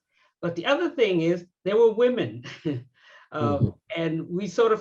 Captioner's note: laughs